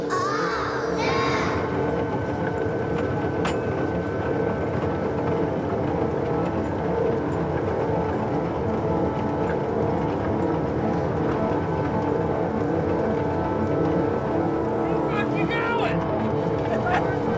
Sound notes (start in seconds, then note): 2.0 gentle dramatic music; 2.0 train car clattering; 17.1 gentle dramatic music; 17.1 men shouting